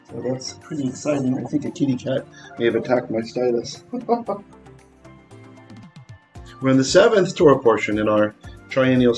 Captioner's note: laughing